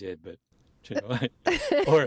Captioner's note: laughter